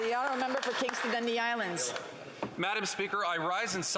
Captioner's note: some Applause